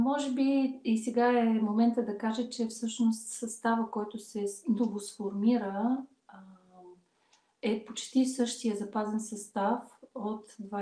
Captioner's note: foreign Language followed by English Interpreter